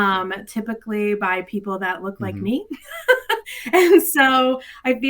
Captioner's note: laughs